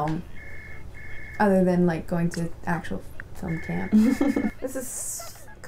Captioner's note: laughter